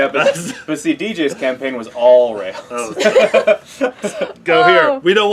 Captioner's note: laugh